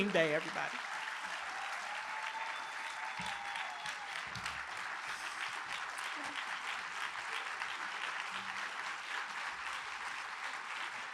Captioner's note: applause